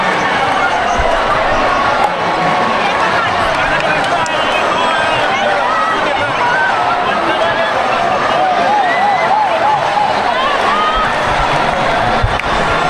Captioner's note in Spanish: ovación